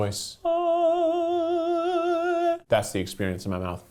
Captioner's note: humming